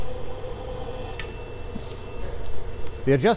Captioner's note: ribbon burner hisses quietly